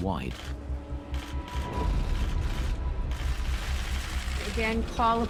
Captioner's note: cameras click